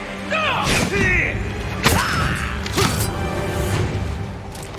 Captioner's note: dramatic music; fighters grunting